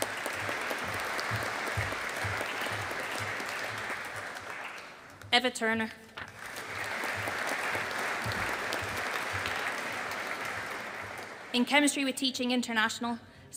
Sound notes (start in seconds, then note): 0.0 audience applauding